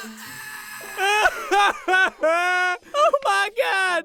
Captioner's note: laughing his ass off